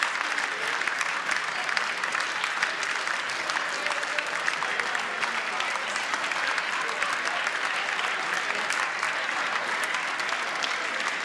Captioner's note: applause